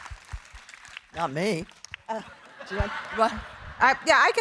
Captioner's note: audience applauding; audience laughing